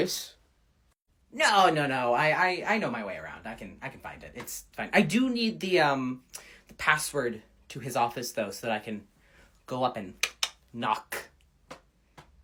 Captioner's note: clicks tongue